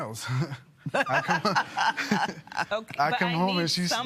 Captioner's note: laughs